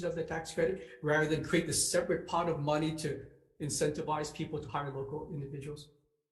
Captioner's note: none